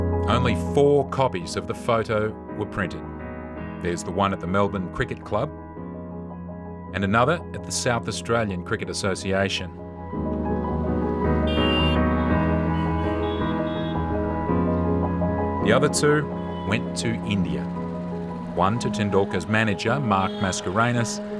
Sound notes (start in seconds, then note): 11.4 car horn blares